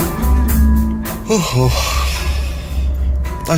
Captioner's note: yawn